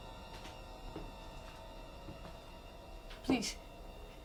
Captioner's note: high heel footsteps come closer